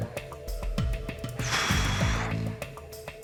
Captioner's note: exhales dramatically